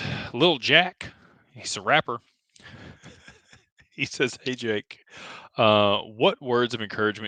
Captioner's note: laughter